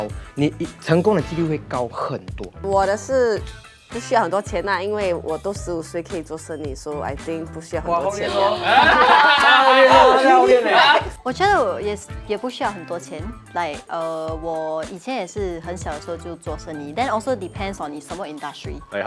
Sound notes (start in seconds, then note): 8.9 hokkien dialect